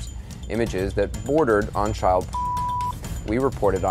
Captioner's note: beep